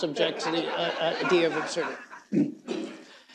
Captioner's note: laughter